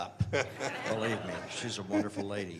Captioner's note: laughter